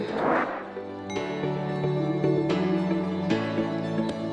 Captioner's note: bell chiming